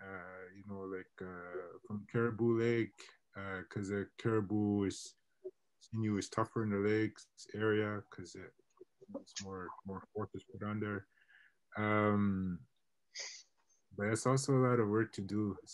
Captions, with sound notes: like caribou Lake cause caribou is tougher in the lakes area(mutters) but it's also a lot of work to do.